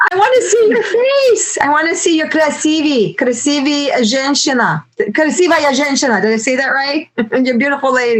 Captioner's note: speaking Russian